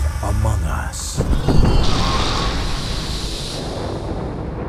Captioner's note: thunder crashes